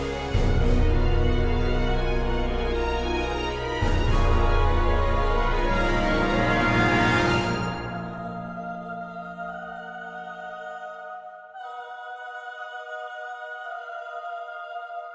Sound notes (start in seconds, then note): none